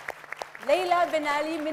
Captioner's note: audience applauds